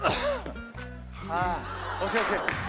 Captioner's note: Coughing